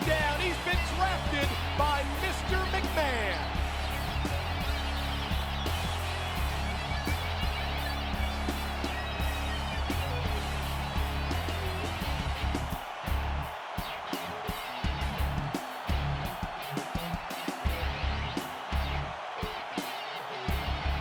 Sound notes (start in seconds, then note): 4.2 crowd cheering; 4.2 upbeat rock music continues